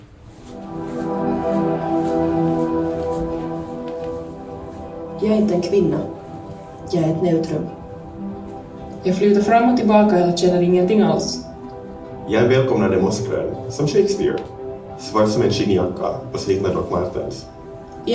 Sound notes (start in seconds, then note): 0.2 ethereal music; 4.3 over the speakers